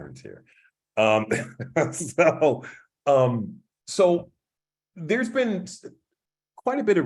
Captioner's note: laugh